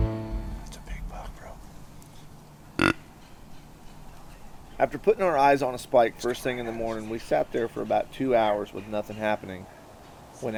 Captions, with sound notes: (whispering) its a big buck bro after putting our eyes on a spike first thing in the morning we sat there for two hours with nothing happening